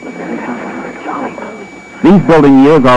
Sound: whispering

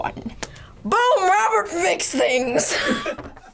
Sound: React chuckles

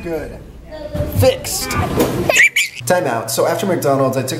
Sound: laughing

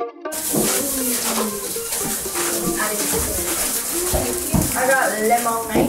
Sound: plastic bags crinkling

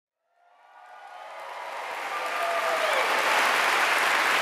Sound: applause

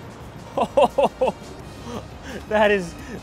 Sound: laughing

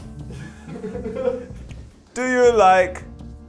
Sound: all laugh

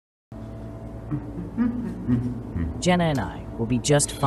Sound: Ava hums

